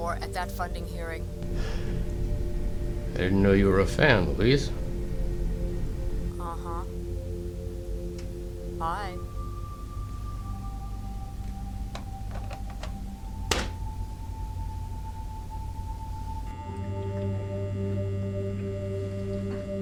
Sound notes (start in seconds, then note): 11.1 object rustling; 17.0 dramatic music